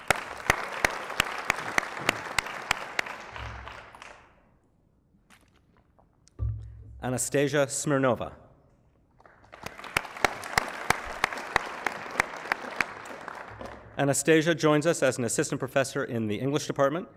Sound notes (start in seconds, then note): 0.0 applause; 9.2 applause